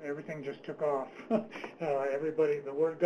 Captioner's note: laughs